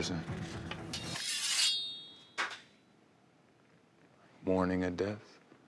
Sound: knife sharpening

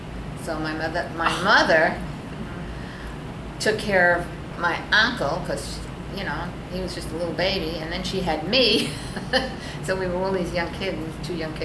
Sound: laughs

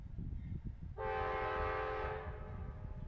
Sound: train horn

